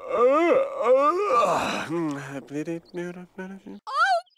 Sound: man muttering; yawns; man grunts and sighs; mutters

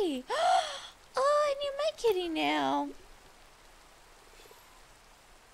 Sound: gasp

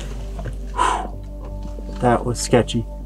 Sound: exhales

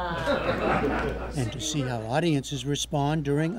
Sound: laughter

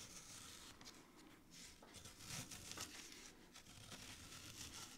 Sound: paper layer crunching

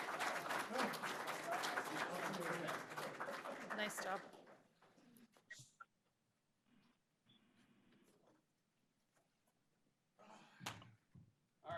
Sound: applause

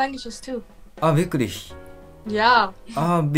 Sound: German

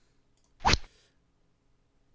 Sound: rod sound

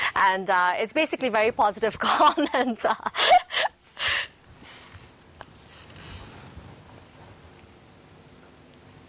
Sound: laughing

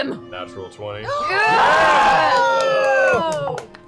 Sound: shouting

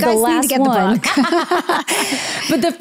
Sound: laughs

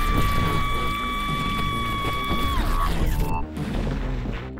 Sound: screaming

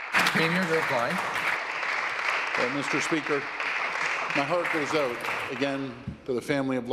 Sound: some Applause

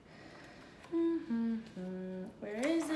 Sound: humming

